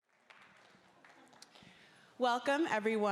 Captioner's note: audience applauding